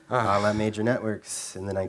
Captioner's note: sighs